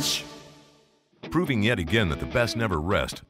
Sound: voiceover

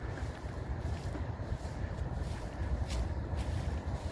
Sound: feet crunching

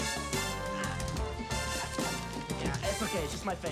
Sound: grunting Softly

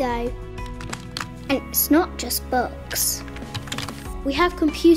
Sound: keyboard clacking

